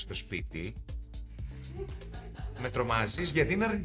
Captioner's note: laughs